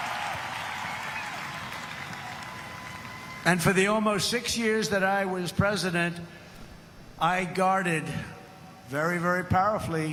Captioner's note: applause